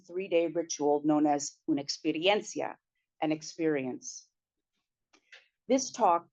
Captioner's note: spanish